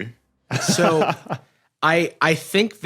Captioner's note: laughs